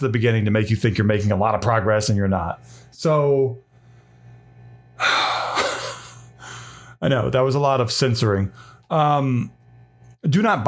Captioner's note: laughs